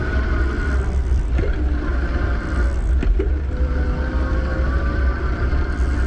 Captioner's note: eBike motor revving continues